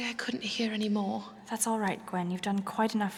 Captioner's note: whispers